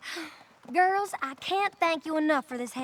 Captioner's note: sighs